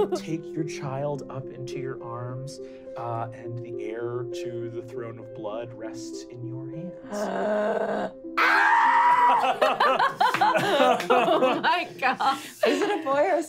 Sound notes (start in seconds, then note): 8.4 gasps and screams; 8.8 laughing